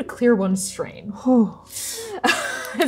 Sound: relieved sigh; laughing

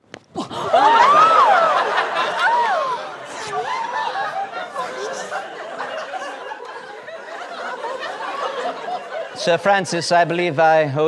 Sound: screams

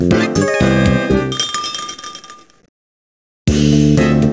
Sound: tinkle tinkle

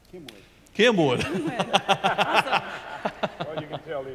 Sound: laughs

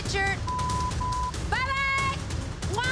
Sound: beep

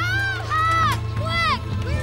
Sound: kids yelling and screaming

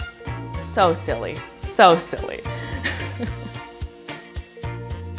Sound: laughs

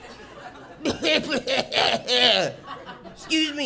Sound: phlegmy coughs

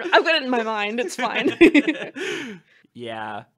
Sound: laughter

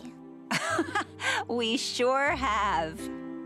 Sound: chuckles

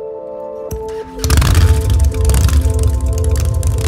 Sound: motorcycle engine revs

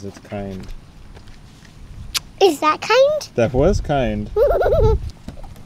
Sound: smooch

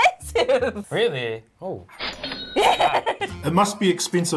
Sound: cash register ding

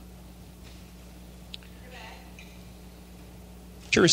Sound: silence

